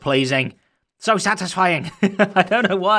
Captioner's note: chuckles